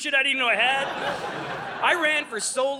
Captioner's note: audience laughing